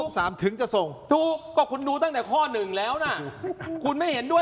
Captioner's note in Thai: เสียงหัวเราะ